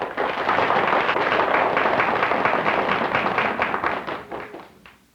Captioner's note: aplausos